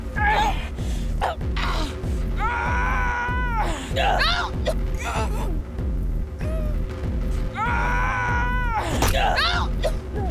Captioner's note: screaming